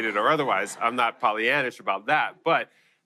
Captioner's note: laughter